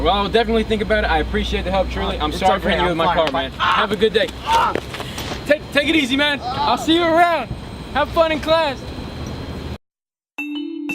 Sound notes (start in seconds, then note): 6.3 groans